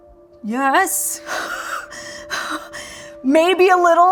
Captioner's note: laughing